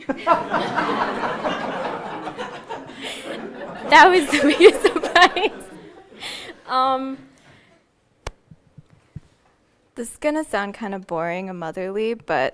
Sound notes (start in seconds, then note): 0.0 audience laughing; 7.8 laughing